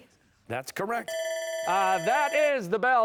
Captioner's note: bell ringing